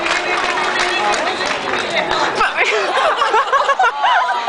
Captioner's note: applause; laughs